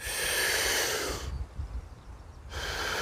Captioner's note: deep breathing